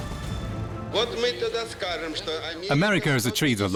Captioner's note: speaks Russian